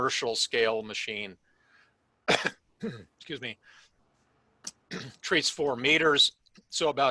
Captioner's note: cough